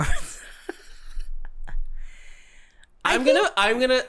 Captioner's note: quiet giggles